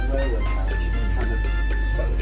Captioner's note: head tapping